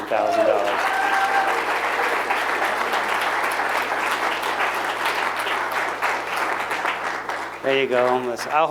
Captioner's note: applause